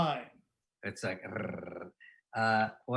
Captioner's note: purring